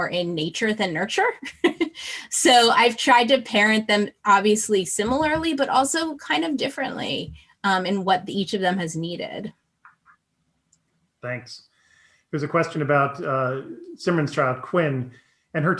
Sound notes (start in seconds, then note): 1.5 chuckles